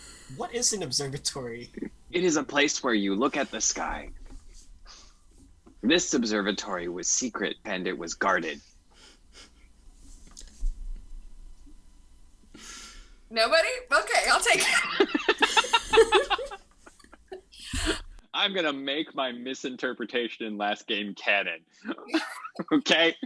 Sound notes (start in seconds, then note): 14.6 cast laughs